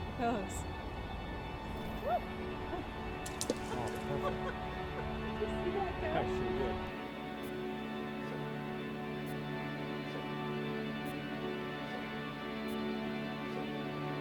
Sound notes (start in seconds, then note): 3.6 laughs; 7.3 slow upbeat music